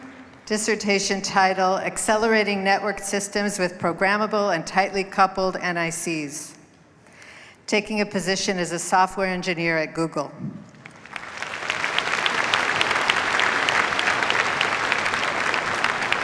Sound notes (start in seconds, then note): 10.7 applause